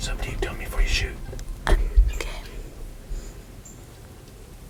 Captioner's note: whispering